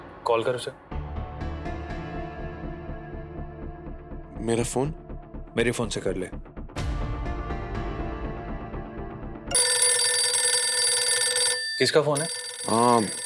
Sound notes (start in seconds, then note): 9.5 phone ringing